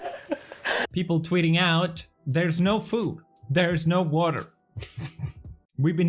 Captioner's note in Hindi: मरने वाली सील हंसी; हंसते हुए